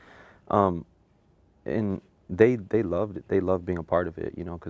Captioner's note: none